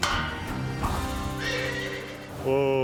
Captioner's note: horse neighs